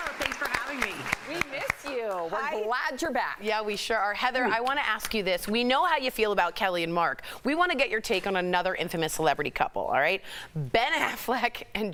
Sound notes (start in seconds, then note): 2.7 applause